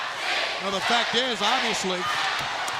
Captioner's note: crowd cheering